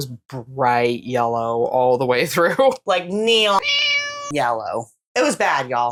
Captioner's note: meow